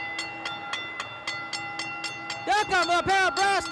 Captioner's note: bell ringing